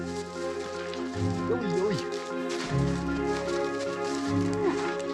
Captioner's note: foreign spoken audio